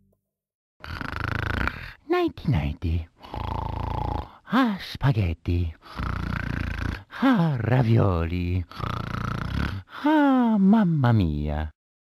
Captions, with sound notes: (Mario snores and says:) Nighty Nighty (snore) Ah spaghetti (snore) Ah ravioli (snore) Ah mama mia...